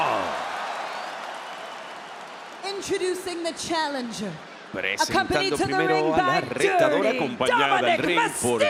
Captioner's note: applause